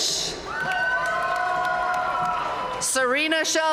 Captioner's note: audience cheering and applauding